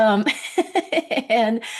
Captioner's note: laughing